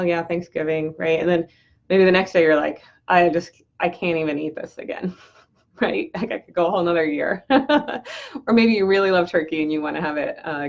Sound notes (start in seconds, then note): 4.9 laughs; 7.4 laughs